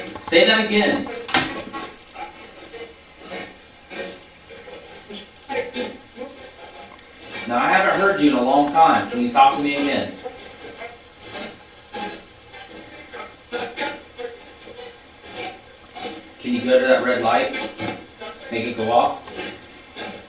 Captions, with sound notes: Say that again. (static playback transmitting) Now, I haven't heard you in a long time. Can you talk to me again? (static playback transmitting) Can you go to that red light? Make it go off?